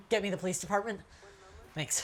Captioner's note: on phone